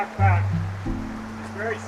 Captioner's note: water streams